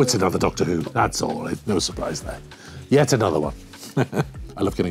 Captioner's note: laughs